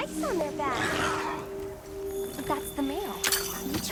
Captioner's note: monster growls